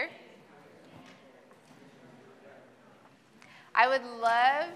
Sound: group chattering

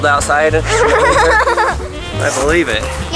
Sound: laughing

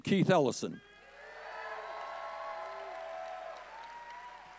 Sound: audience cheering

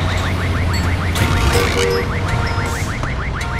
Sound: creak

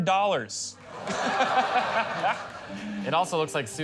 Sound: laughter

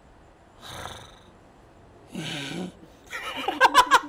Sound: snarls; laughter

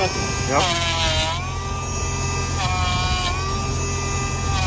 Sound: planer whirring

